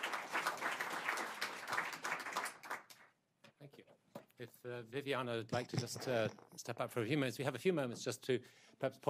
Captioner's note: applause